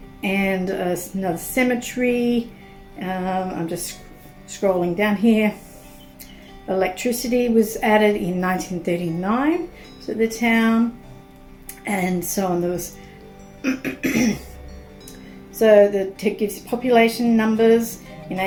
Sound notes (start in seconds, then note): 13.6 clears throat